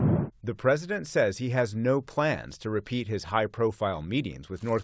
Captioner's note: voice-over